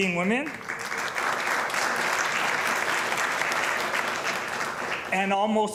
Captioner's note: applause